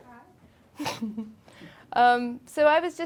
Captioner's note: chuckling